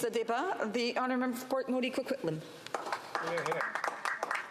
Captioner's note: some Applause